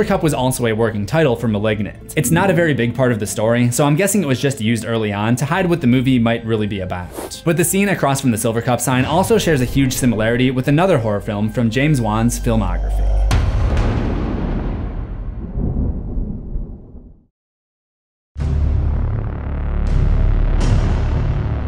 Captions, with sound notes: was also a working title for Malignant. It’s not a very big part of the story, so I’m guessing it was just used early on to hide what the movie might be about. But the scene across from the Silvercup sign also shares a huge similarity with another horror film from James Wan’s filmography. (impact) (dark music)